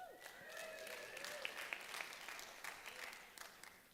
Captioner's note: applause